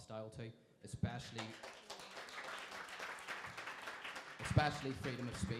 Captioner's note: crowd applauding